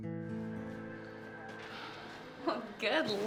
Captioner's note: Ashley sighs